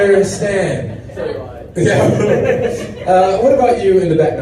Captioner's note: audience laughing